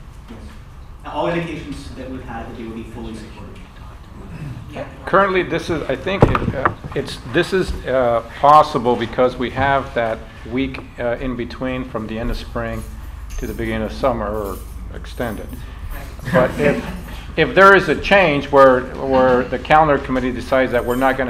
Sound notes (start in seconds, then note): 16.2 laughter